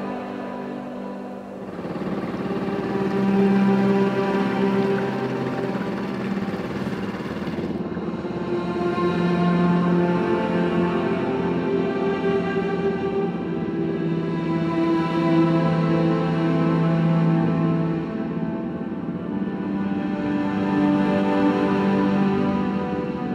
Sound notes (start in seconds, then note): 0.3 engine droning; 0.3 somber music continues; 9.3 engine droning; 9.3 somber music continues; 18.2 engine droning; 18.2 somber music continues